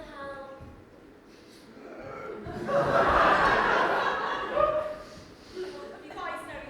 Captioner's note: Toto woofs as the audience laughs